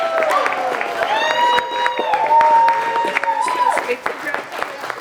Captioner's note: audience cheering and applauding